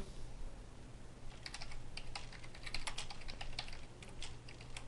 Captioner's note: typing